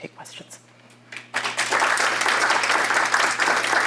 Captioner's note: applause